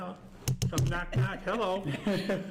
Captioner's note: taps on microphone